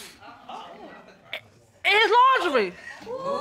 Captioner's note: audience exclaiming